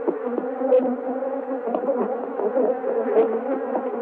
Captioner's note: bees buzzing